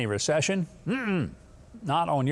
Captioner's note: negatively grunting